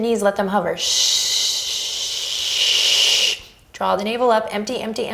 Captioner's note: shushing